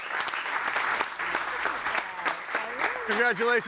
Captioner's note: audience applauding